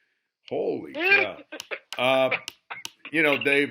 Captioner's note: laughing